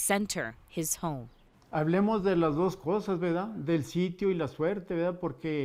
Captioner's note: speaking in foreign language